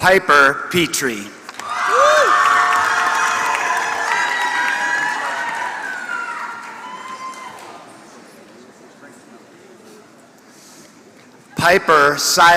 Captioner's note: applause